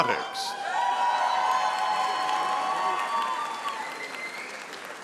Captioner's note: audience cheering